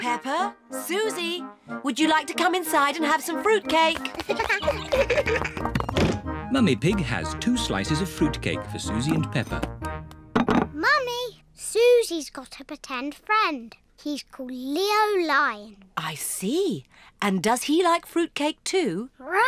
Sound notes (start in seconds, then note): 4.1 both giggle